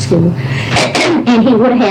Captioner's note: cough